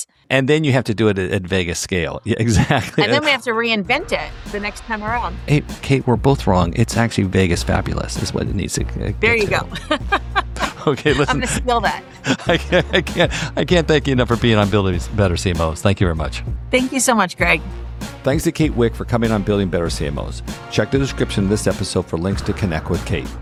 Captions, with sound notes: And then you have to do it at Vegas scale. Yeah, exactly. And then we have to reinvent it the next time around. Hey, Kate, we're both wrong. It's actually Vegas fabulous is what it needs to get to. There you go. [laugh] Okay, listen. I'm going to steal that. I can't thank you enough for being on Building Better CMOs. Thank you very much. Thank you so much, Greg. Thanks to Kate Wik for coming on Building Better CMOs. Check the description of this episode for links to connect with Kate.